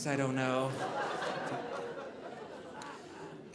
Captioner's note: audience laughing